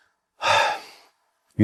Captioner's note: sigh